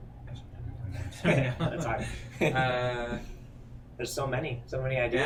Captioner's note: chuckling